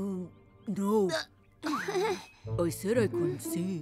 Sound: Pinkfong chuckles nervously

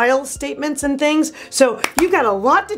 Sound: clapping

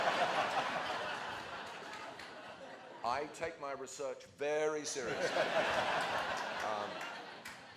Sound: laughter

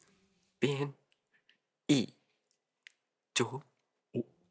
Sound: saying his name in Chinese

